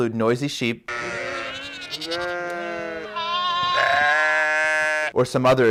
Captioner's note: sheep bleating